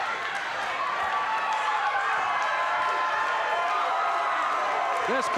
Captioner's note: audience cheers